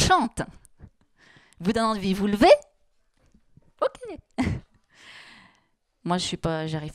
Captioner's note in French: elle rit